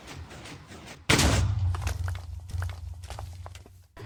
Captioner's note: TNT sizzles; explosion